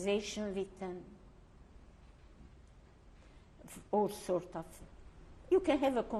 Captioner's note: pauses for 3 seconds